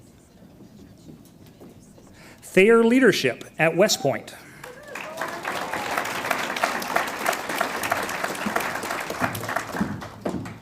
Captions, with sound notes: Thayer Leadership at West Point. (audience applauds)